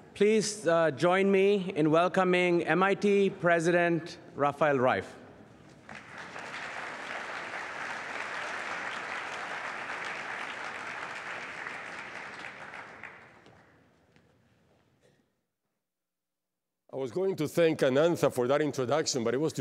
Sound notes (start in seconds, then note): 5.8 applause